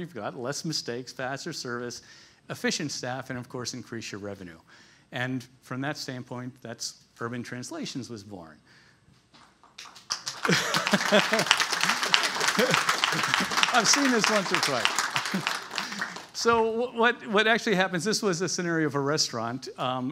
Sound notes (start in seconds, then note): 9.7 applause; 10.3 laughs